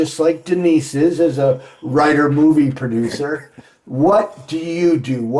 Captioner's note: chuckling